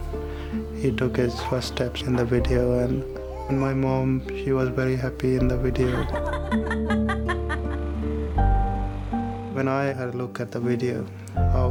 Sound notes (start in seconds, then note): 5.7 laughing